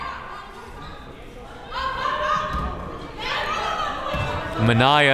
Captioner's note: crowd members shouting